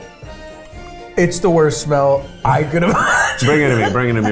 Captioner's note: laughs